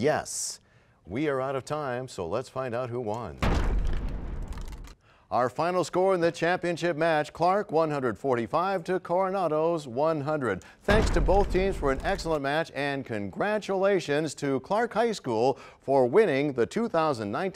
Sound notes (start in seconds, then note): 3.4 crashing sound